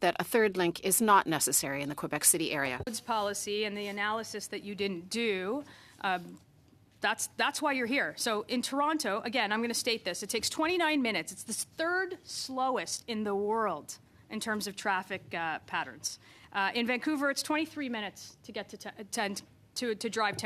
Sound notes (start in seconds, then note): 1.4 speaking French